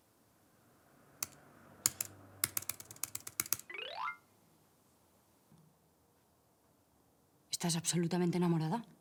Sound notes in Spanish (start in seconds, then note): 2.4 Hace clic insistentemente